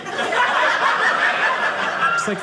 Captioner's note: audience laughing